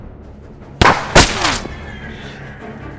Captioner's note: gunshot bangs